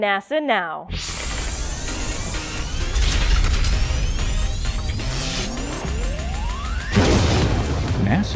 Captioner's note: sound Effects